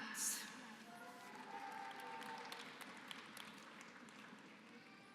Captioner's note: applause